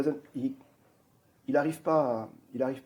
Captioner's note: french